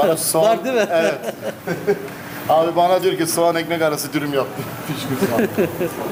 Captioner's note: laugh